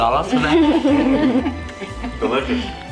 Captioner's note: chuckling; bright music continues